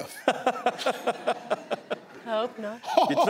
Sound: laughs

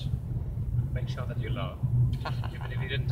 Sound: laughs

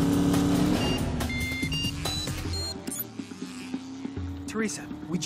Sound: engine gunning; phone ringing

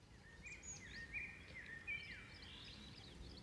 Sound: birds

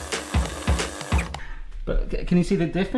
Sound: blender whirs; playful music

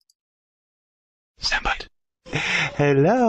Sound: whispering

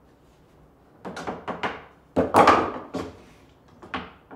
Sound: hammer banging

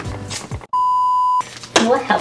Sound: beep

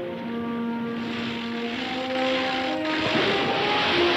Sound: anchor clanking; splashing

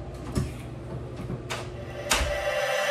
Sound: electronic music; door latching

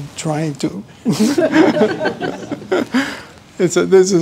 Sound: laughter

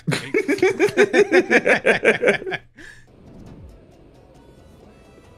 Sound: everyone laughs

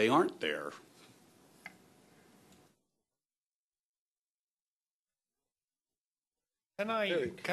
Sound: pause

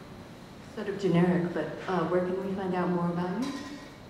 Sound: voiceover

